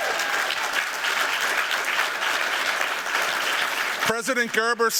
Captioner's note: applause